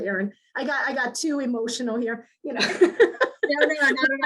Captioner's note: laughs